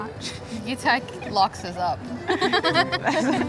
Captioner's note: both laughing